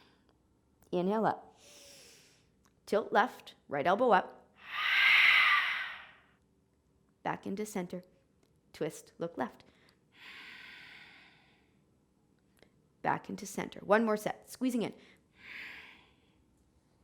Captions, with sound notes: Inhale up (inhaling). Tilt left. Right elbow up, (exhaling). Back into center, twist look left (inhaling). Back into center. One more set, squeezing in (inhaling)